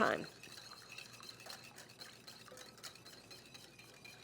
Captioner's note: whisks dressing